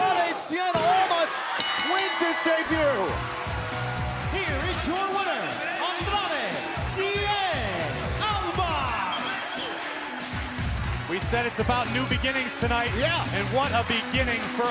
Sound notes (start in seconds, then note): 1.6 bell ringing; 5.4 crowd cheering